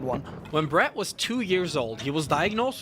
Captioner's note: voiceover